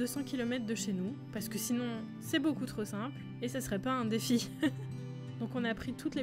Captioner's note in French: rires